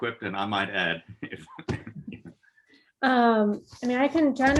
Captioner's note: laughing gently